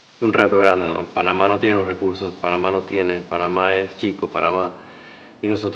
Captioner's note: speaking Spanish